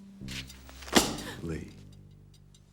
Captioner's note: slam